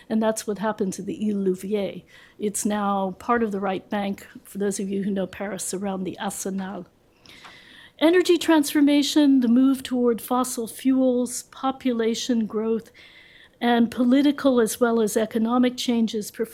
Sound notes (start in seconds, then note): 7.0 french